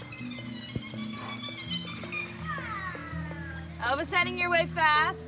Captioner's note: dolphins chirp